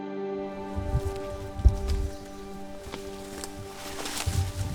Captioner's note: uplifting music; leaves rustling